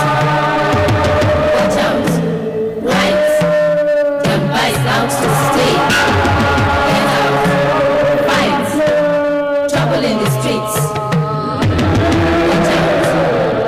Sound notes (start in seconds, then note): none